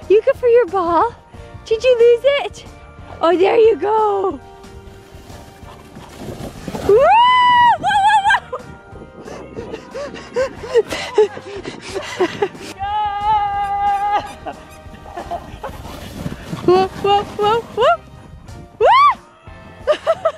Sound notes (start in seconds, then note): 6.7 cheering; 9.3 laughing; 13.9 ball squeaking; 17.0 gentle jazzy music